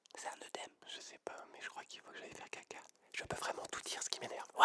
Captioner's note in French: none